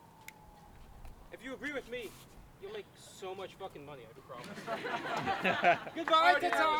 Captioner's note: laughter